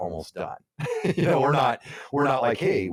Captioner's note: laughs